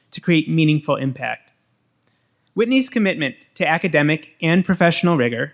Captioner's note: none